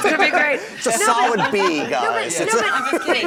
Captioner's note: laughter